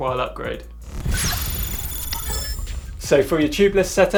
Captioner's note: digital whooshing and beeping